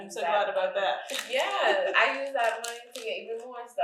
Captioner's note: chuckles